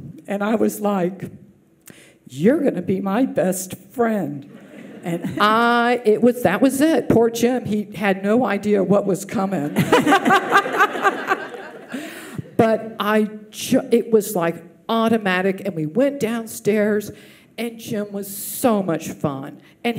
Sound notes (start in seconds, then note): 9.7 audience laughs